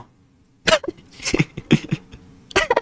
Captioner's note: laughs to myself